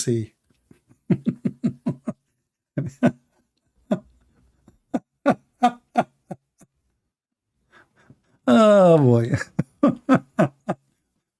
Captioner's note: Gelak ketawa